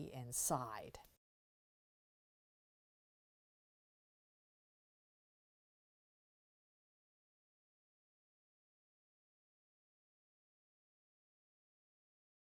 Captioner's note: no Sound Present